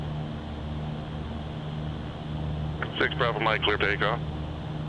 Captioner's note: radio